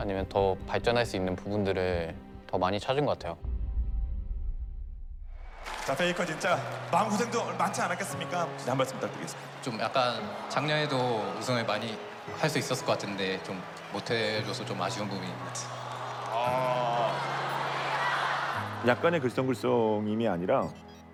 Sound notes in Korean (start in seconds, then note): 17.4 환호성